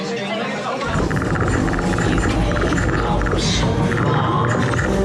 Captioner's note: device chirping